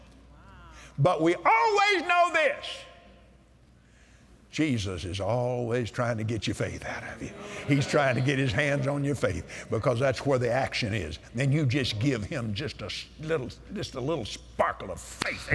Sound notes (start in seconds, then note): 7.4 audience Agrees